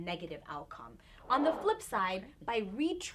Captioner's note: air whooshing